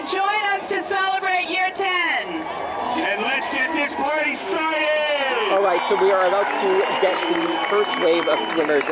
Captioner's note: cheering